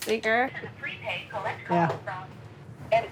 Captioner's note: automated Voice